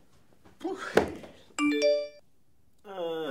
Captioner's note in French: sonnerie de message